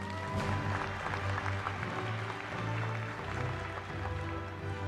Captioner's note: applause